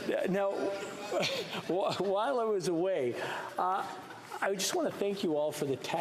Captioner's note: some Laughter